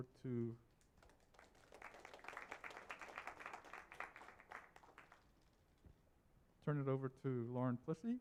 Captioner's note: applause